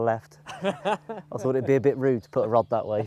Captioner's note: laughs